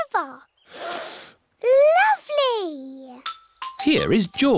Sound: sniffs

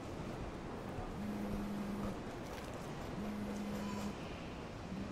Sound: cellphone buzzing

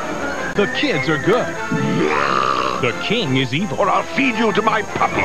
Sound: burp

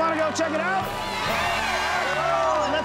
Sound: cheering

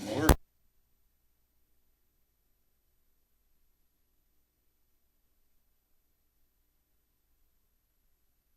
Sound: silent

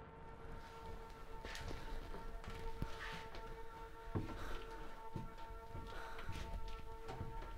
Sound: footsteps shuffling; stairs creaking

